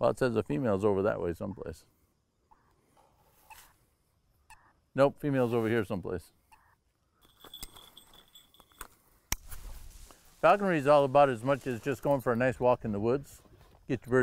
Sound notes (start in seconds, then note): 2.5 device beeps; 7.3 bell rings; 8.6 button snaps